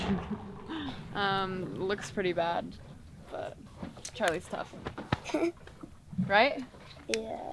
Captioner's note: laughs